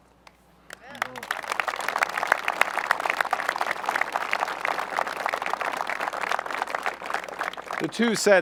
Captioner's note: applause